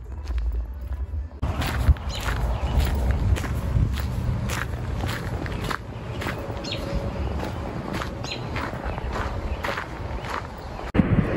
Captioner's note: gravel crunching, birdsong